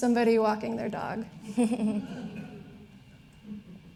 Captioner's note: laughs